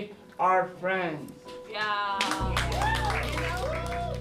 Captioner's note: cheers and applause